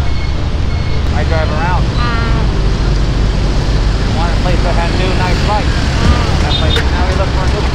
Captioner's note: conversation